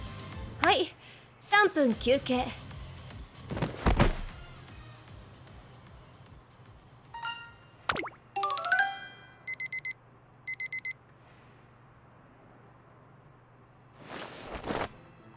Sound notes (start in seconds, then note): 9.2 beepbeepbeep! beepbeepbeep!